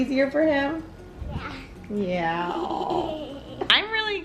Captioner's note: laughs